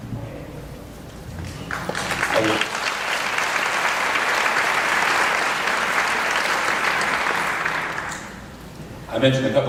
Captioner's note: applause